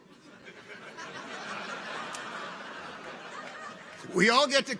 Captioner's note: people laugh